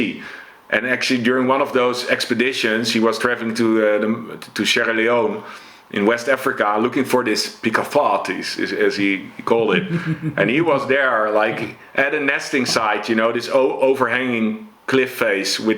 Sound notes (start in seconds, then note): 9.5 chuckles